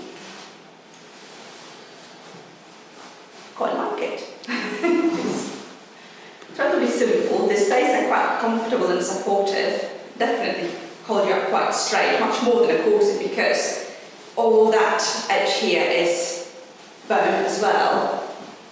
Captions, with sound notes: I quite like it. (laughs) It's relatively simple. The stays are quite comfortable and supportive. Definitely hold you up quite straight, much more than a corset because all that edge here is bone as well.